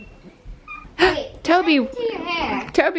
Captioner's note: gasps